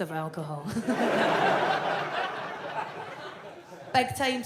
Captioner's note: audience laughs